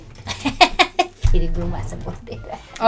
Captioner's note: laughing